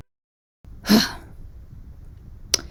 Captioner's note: sighs heavily